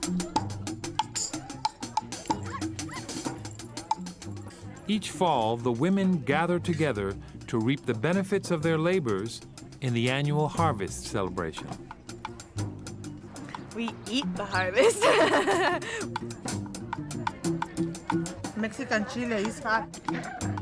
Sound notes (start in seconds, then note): 14.6 laughs